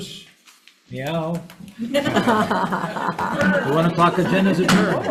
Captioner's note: attendees laughs